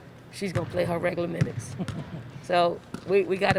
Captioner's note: chuckles